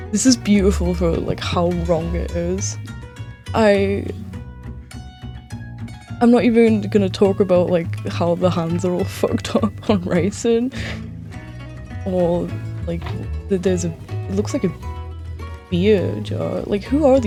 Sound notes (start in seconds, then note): none